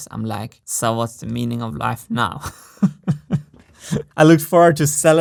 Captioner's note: chuckles